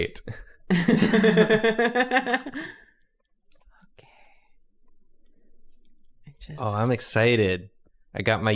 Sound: laughter

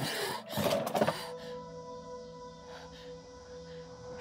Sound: cicadas

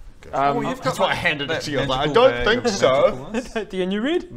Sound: none

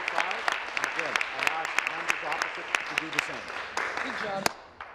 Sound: applause

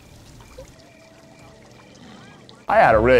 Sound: crickets

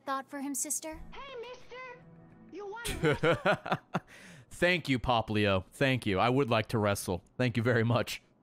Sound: laughs

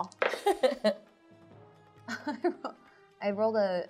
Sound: laughs

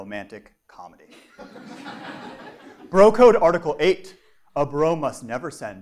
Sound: laugh

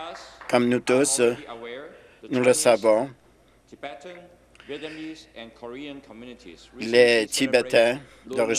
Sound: some Applause

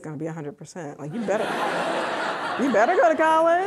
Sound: audience laughing

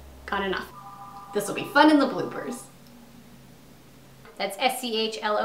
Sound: phone ringing

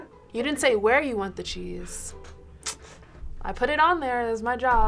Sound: clicks tongue

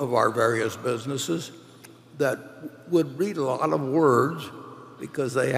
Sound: none

